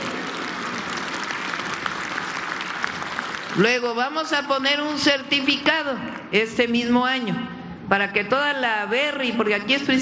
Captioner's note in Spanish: aplausos